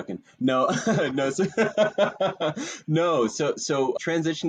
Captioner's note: laughing